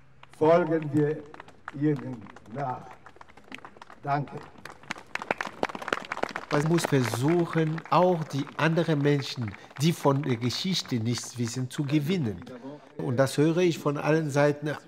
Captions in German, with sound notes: Folgen wir Ihnen nach. Danke. *klatschen* Man muss versuchen, auch die anderen Menschen, die von der Geschichte nichts wissen, zu gewinnen. Und das höre ich von allen Seiten,